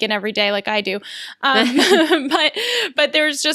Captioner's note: laughs